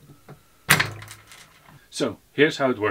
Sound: nut cracking

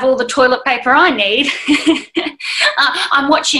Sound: laughs

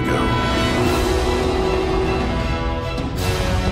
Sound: Malice Darkstalker roaring

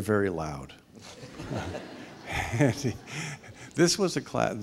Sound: laughing

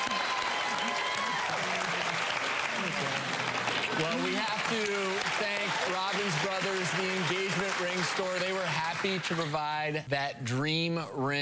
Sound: applause; crowd cheering; applause

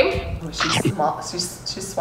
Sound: chomp

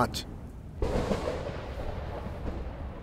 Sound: thunderclap

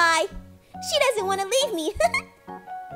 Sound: laughs

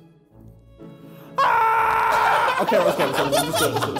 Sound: soft piano music; screaming; boys laughing

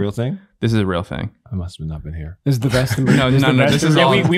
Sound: laughs

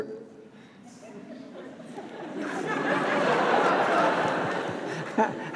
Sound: audience laughs

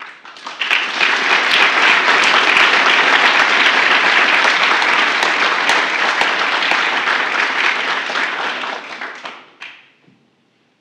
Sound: applause

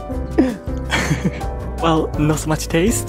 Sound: chuckles

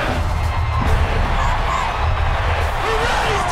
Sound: cheering

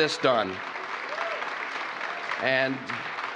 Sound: applause

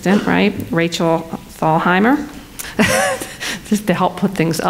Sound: laughs

